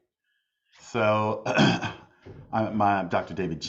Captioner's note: coughs